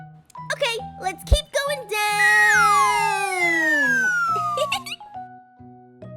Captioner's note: laughs